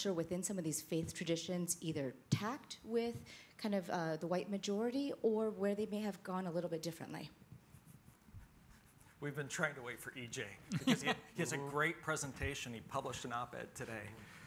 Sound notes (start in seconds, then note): 10.7 laughs